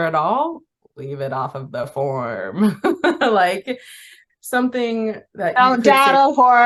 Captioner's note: laughs